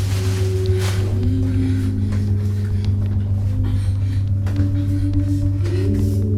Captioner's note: breathing heavily; ominous music